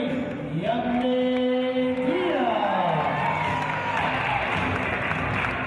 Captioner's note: cheers